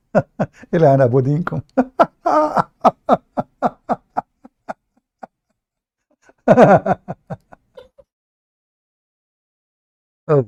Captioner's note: Ketawa